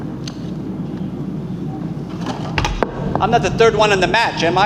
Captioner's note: object clicking